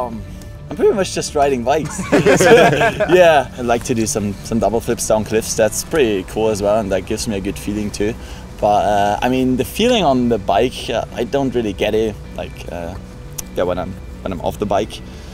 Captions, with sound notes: I'm pretty much just riding bikes. (laughing) I like to do some double flips on cliffs, that's pretty cool as well, and that gives me a good feeling too. But the feeling on the bike, I don't really get it when I'm off the bike.